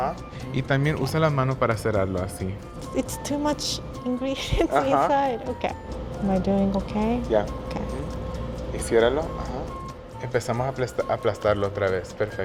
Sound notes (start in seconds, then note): 0.3 speaking Spanish; 4.4 laughs; 8.8 speaking Spanish